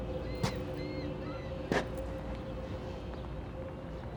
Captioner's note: birds squawking